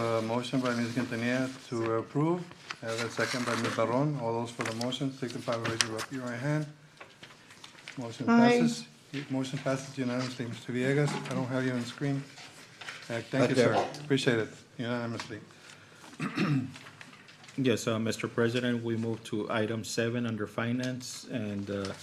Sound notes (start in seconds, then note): 16.1 clears throat